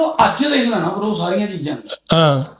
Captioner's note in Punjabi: ਗਲਾ ਸਾਫ਼ ਕਰਨ ਦੀ ਅਵਾਜ਼